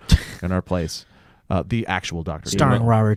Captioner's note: laughs